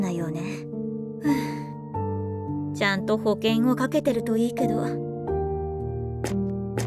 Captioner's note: sigh